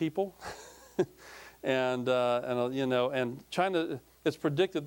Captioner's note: chuckling